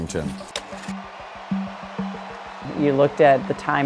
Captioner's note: crowd cheering